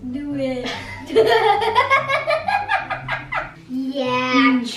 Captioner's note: laughing